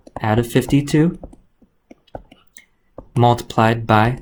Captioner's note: keyboard clicks